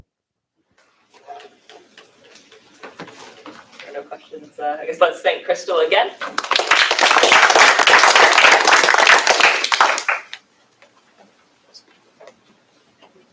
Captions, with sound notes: There are no questions. I guess, let's thank Krystal again. [APPLAUSE]